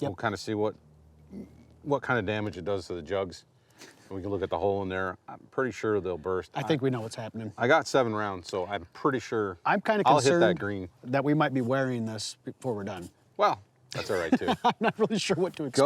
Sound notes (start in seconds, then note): 13.9 laughs